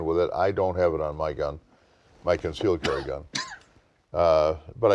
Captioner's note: coughing